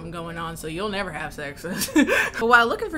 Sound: laughs

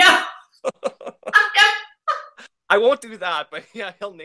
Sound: laughing

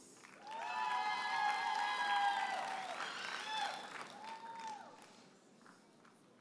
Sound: audience cheers and applauds

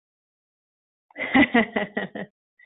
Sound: laughs

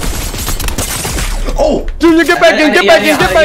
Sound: multiple guns firing

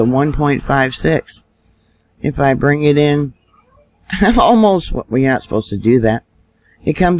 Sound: laughing

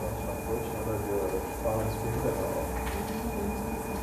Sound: conversations in the background

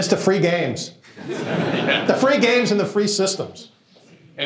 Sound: laughter

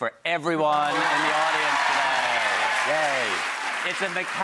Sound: audience applauds

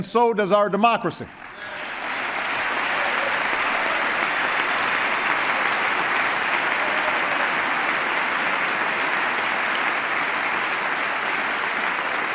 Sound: applause

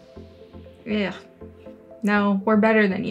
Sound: makes noise of disgust

